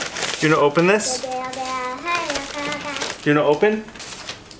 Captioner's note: Babbles